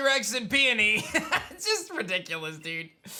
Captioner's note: laughs